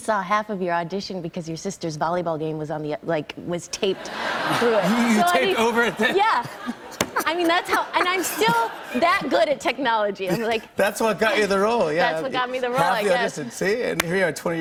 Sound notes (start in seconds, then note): 3.9 laughter